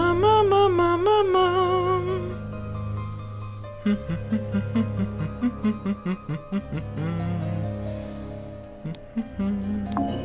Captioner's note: humming